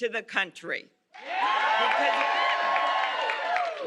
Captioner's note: cheers and applause